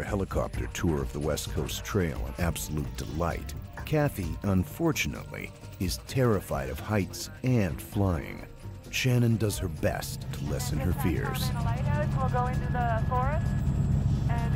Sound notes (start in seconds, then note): 8.5 voiceover